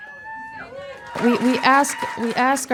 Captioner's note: audience cheering